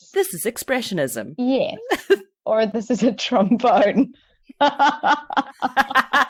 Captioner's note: laughs